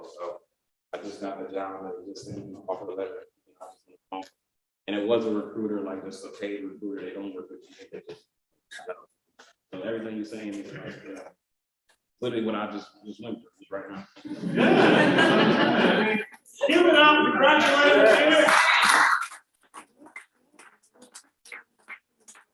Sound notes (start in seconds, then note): 14.2 laughter; 19.0 applause